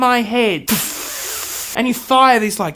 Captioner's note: hisses